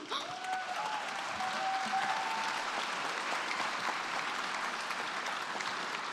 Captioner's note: crying; crowd applauds